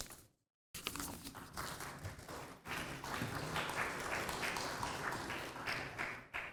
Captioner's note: applause